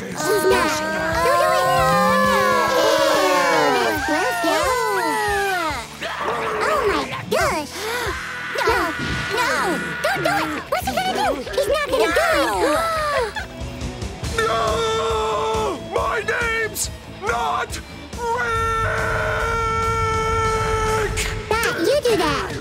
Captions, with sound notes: O-O-Oh. Oh! Oh, my gosh. [gasping] No. No. Don't do it. What's he gonna do? He's not gonna do it. [gasping] No! My name's not Rick! Dot, you do that.